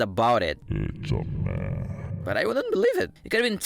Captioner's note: unearthly voice